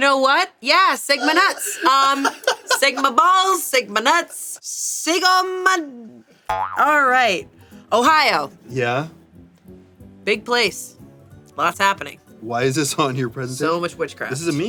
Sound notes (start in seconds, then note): 6.5 boing